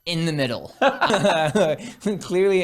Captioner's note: laughing